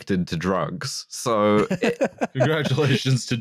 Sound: laughs

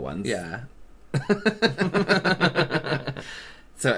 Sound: awkward Laughter

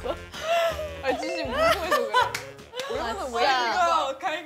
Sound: can't stop a laughter attack in progress

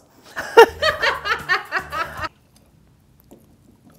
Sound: both laughing

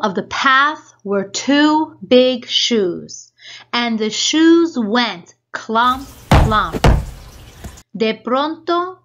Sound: shoes stomping

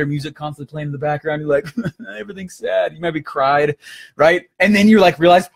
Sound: laughing

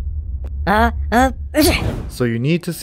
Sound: sneezing sound 🤧

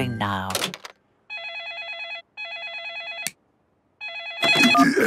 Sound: phone ringing

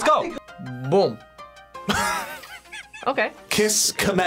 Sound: React laughs

